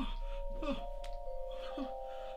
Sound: panting

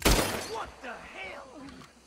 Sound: gun fires

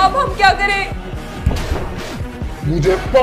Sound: knocking

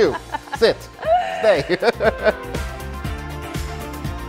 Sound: laughing

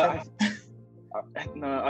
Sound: chuckling

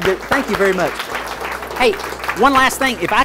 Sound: audience clapping

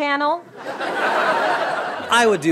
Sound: laughter

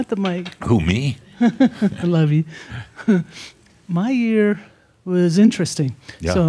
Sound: chuckles

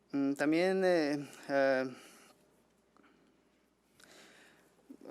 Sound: man speaking foreign language

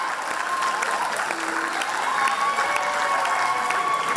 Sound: applause and cheers

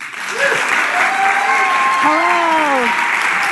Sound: audience cheering and applauding

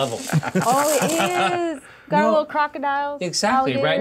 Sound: co-hosts laughing

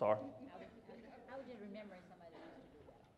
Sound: voiceover

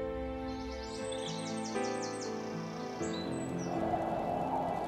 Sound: somber music; birds chirping; wind howling

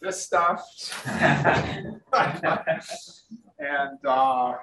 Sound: room laughs

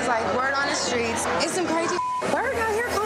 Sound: beep

